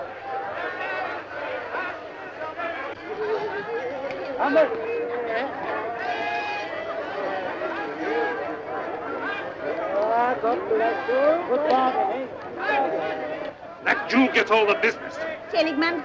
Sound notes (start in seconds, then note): 4.7 crowd chattering